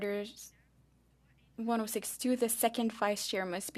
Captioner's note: speaking French